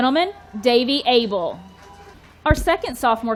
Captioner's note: audience cheering